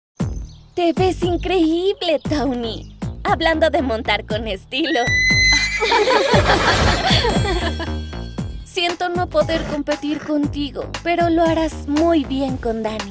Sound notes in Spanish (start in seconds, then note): 4.8 ríen; 4.8 relincha de risa